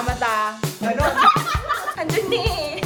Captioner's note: laughing